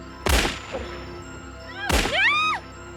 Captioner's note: gunshot